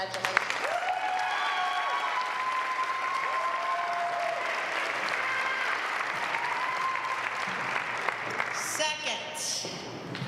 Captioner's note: applause